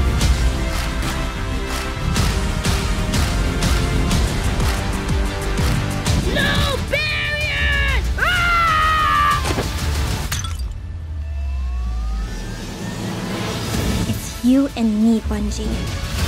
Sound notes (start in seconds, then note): 8.7 shouting; 10.3 plant pot breaks